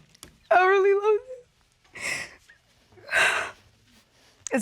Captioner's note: sobs